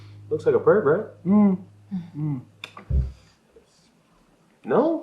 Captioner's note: chuckles politely